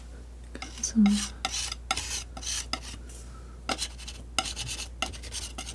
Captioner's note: scratching